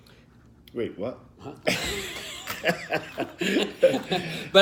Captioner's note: laughter